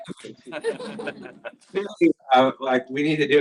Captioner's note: laughter